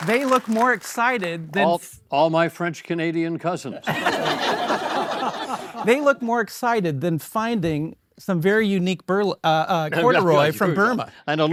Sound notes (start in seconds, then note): 3.9 all laugh